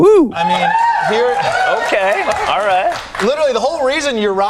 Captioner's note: audience cheering